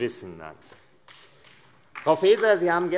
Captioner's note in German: Beifall AfD